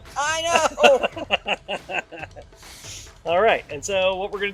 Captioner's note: laughs